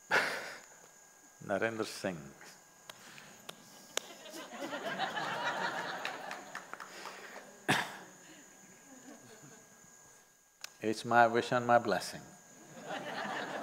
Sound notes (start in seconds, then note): 3.8 laughter; 12.6 laughter